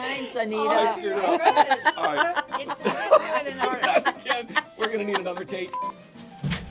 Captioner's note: laughter